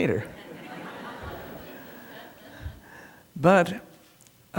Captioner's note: laughter